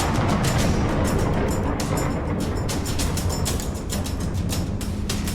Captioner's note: intense music; thundering